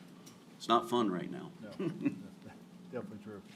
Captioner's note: chuckles